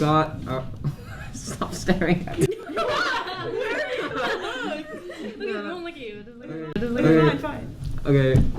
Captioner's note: laughter